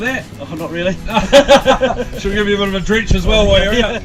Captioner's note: laughs